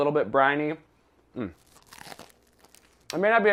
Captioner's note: bread crunching